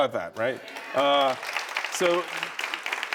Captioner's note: audience cheering